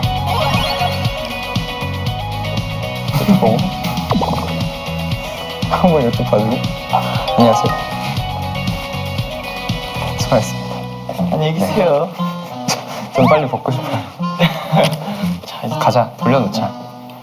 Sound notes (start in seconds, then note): 3.2 laughs at the situation